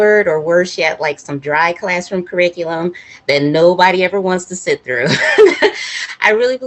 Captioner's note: laughs